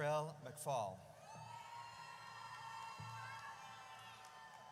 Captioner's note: audience cheers